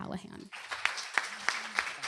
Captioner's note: applause